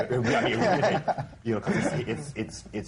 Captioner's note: laughs